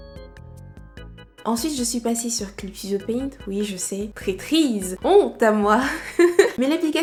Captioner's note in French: rires